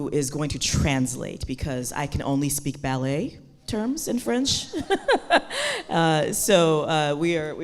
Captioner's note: laughs